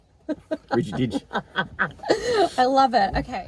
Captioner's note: laughing